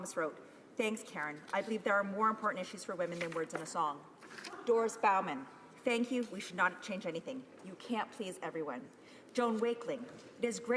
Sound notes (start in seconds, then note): none